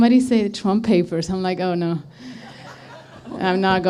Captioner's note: laughter